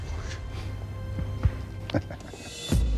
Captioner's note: chuckles